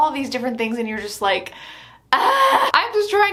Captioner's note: screams